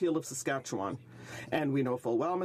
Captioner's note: speaking French